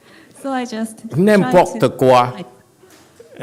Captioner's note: French